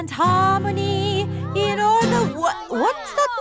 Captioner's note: commotion